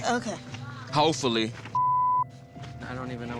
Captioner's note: beep